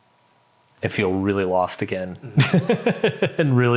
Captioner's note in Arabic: يضحك